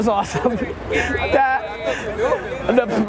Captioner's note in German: Voice-over